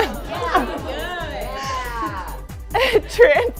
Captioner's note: laughing